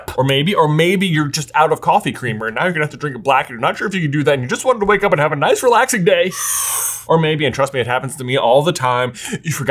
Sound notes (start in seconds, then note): 6.4 inhales